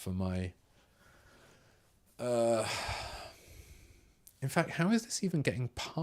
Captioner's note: silence